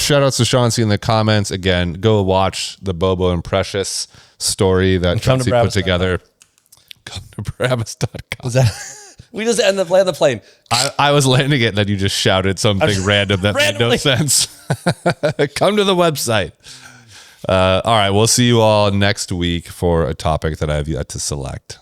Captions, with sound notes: Shout outs to Chauncey in the comments. Again, go watch the Bobo and Precious story that Chauncey put together. -And come to bravis.com. -Come to bravis.com. [laughs] Was that, we just end the, land the plane. I, I was landing it, and then you just shouted something random- -I just randomly -... that made no sense. [laughs] Come to the website. Uh, all right. We'll see you all next week for a topic that I have yet to select.